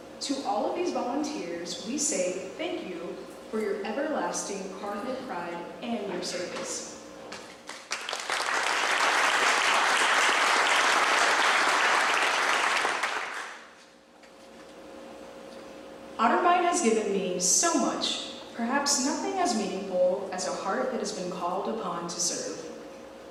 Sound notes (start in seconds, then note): 7.6 clapping